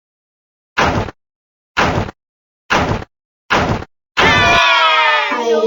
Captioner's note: bang! Bang! Bang!